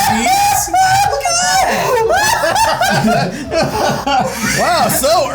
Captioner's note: laughing hysterically